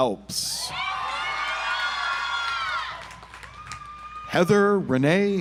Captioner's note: audience applauds